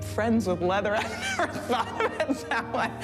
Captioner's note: laughing